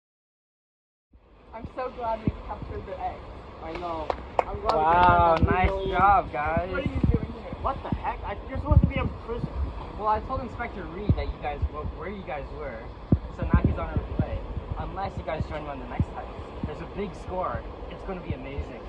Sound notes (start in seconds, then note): 3.7 clap, clap, clap